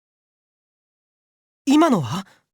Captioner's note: silence